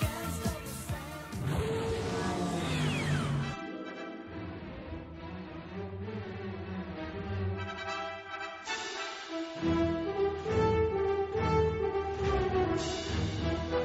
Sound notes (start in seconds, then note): 1.3 vehicle accelerating